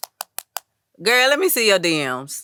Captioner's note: tapping on phone